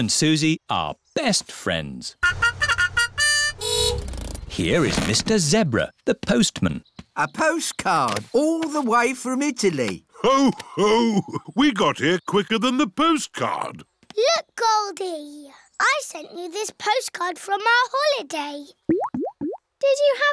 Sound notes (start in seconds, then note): 2.2 fanfare; 2.2 horn honks